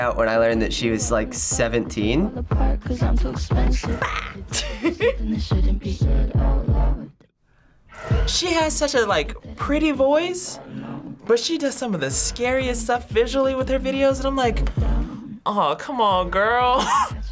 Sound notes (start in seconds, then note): 4.0 laughs